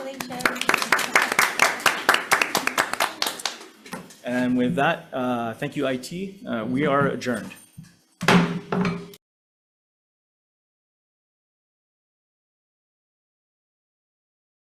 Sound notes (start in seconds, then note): 0.0 people applauding; 8.2 gavel pounds